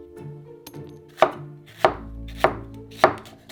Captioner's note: knife chopping